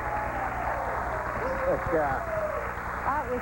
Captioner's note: applause